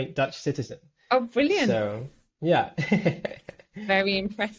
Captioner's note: chuckles